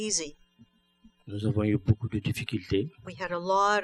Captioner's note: speaking french